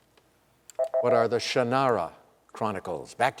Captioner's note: beep